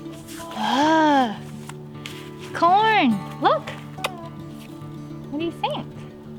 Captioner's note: kiss sound